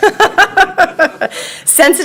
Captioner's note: laughing